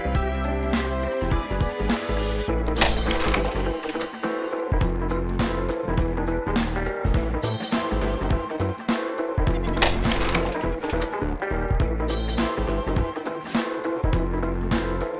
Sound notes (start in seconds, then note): 2.6 projector slide switching; 3.7 upbeat music; 9.6 projector slide switching; 10.5 upbeat music